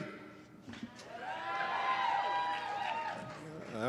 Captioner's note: cheering